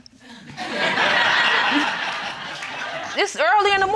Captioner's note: crowd laughing